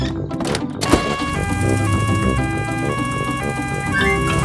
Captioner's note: siren wails